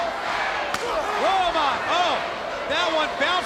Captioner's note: chop striking